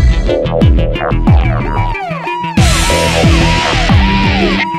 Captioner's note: Siren blaring